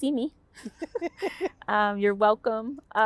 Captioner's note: both laughing